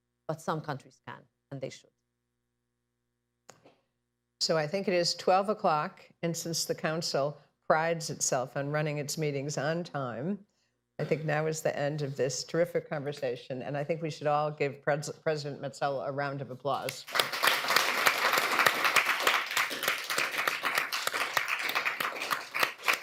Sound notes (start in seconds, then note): 20.0 applause